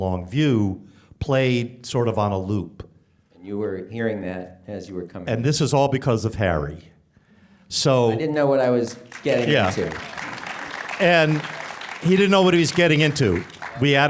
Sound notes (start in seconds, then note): 8.8 applause